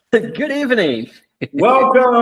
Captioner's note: laughs